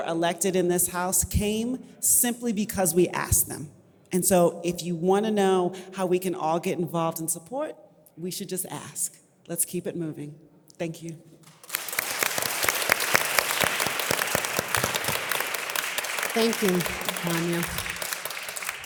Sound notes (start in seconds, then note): 11.5 audience applause